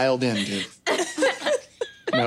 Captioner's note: laughing